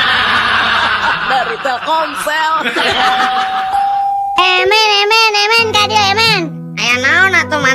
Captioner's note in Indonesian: tertawa